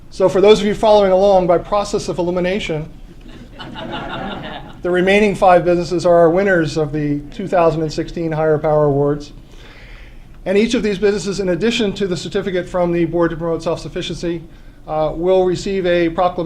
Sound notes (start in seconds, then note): 3.1 laughter